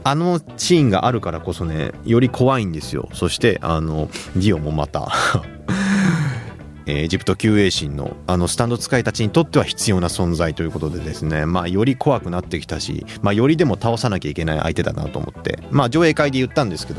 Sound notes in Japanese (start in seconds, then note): 5.6 息をのむ音; 5.7 笑い